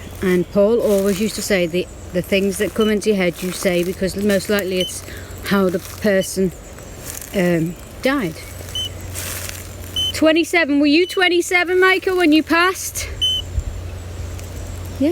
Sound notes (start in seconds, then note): 9.9 beep; 13.2 beep